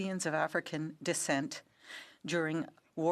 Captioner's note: speaking French